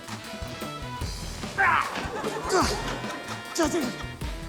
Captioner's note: laughter